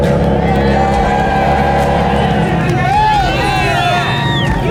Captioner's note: engine revving; people cheering